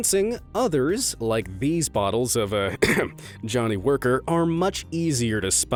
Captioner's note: coughs